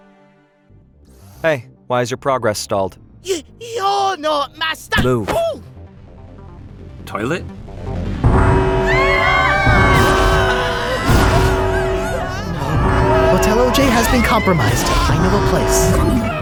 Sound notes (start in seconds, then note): 8.4 siren blares; 8.8 screaming